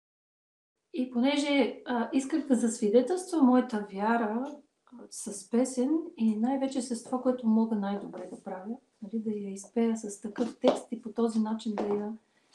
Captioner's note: foreign Language followed by English Interpreter